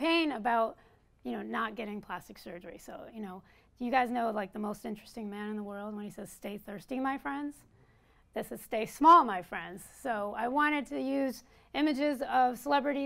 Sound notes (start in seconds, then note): none